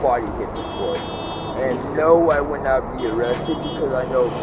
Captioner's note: horn beeps; beeping horn